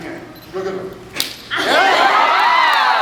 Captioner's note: smack; cheers, applauds